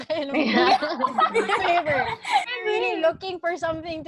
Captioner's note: laughter